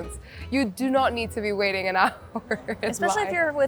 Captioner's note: laughs